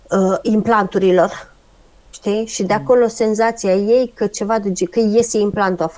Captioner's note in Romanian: voce dreasă